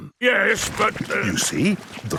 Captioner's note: stutters